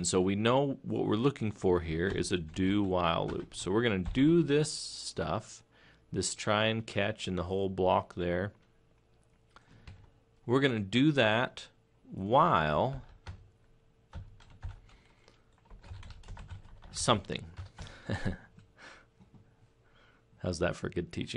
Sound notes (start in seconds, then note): 15.9 laughing